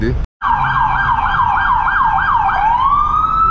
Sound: police Siren Blares

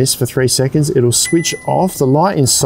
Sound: control panel dings

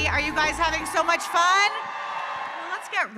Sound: audience cheering

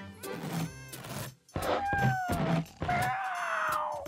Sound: scratching, meowing

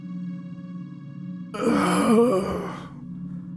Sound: hnggg

